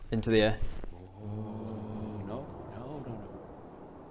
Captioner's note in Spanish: Susurros aterrorizados